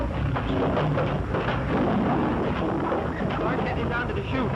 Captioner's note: roaring